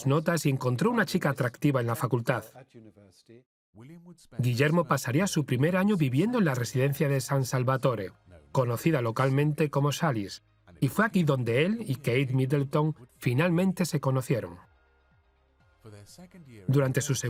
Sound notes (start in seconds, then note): 3.1 voiceover